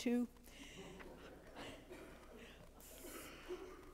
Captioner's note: congregation giggles